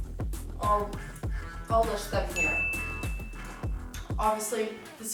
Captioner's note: ding